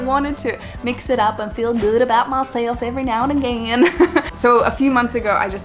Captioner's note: chuckles